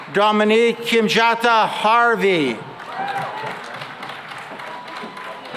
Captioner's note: cheering and applause